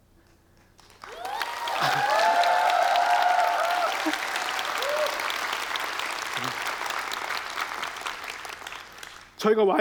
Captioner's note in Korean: 박수와 환호